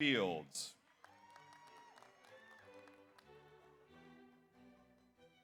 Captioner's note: audience applauds